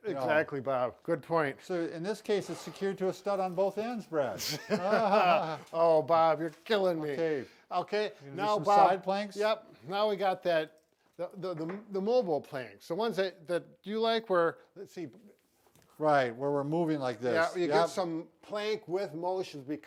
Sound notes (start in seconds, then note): 4.4 both laughs